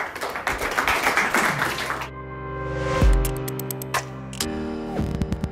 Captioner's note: applause